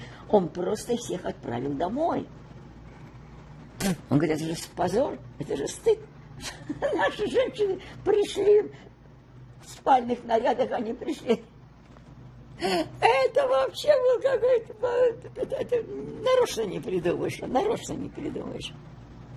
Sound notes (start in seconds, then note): 6.4 laughing